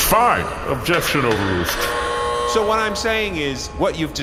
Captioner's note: gavel banging, buzzer